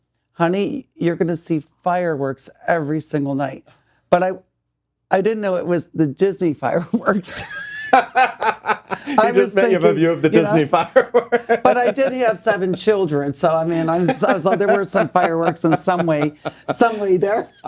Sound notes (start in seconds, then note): 7.3 laughing